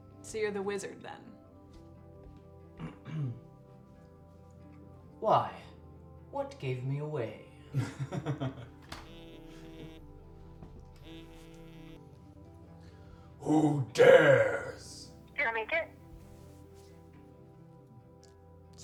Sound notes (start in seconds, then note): 8.9 phone vibrates